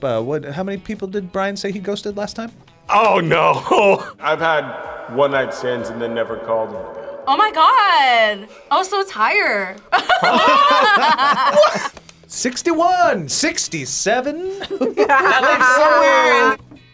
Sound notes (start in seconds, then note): 3.4 laughs; 9.9 both laugh; 14.4 both laugh